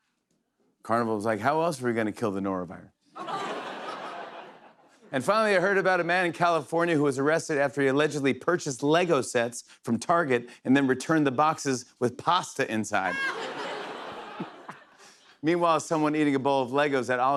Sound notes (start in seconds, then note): 13.0 laughter